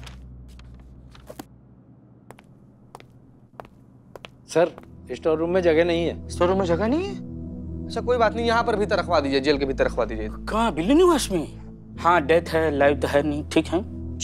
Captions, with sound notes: [shoes tapping] Sir, there's no space in the store room. No space? Okay, no problem. Keep it inside in the jail. Where? In the Billu Residence? Okay, it is dead anyway, not alive. So it's okay.